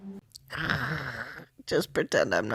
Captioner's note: sounds of pain